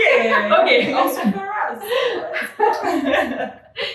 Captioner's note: laughts